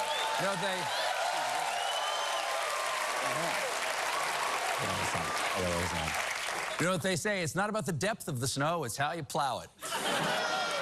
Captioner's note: cheering